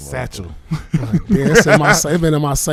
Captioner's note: laughing